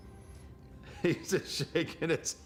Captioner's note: Undertaker chuckles